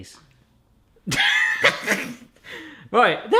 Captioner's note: laughs